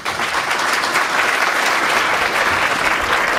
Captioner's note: applause